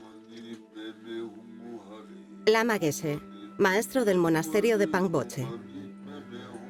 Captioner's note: chanting in a foreign language